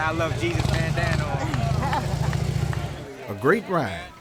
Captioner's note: laughing